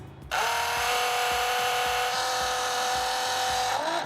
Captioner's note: pump roaring